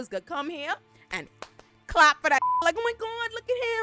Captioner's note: beep